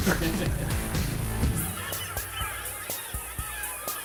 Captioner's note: laughing